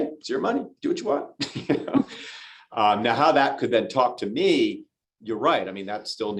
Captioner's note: laughter